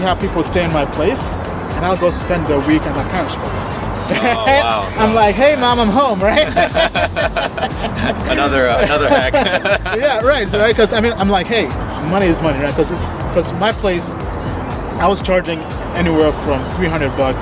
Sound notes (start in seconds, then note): 6.2 laughing